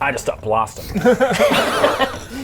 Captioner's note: foolish laughter